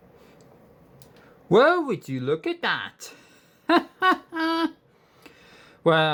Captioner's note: chuckles